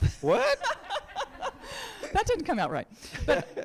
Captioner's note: people laughing